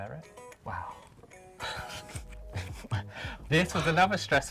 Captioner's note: laughs softly